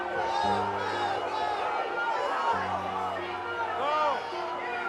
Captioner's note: alarm sounding